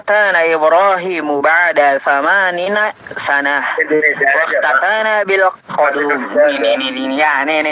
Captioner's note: laughs